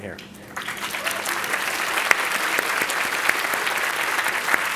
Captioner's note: audience clapping